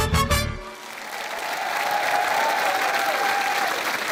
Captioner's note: applause